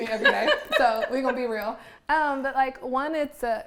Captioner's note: laughs